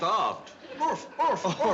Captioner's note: barks